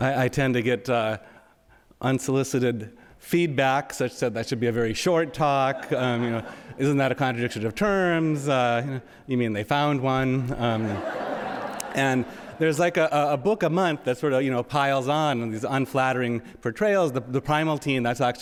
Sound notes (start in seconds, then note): 5.6 audience laughing; 10.6 audience laughing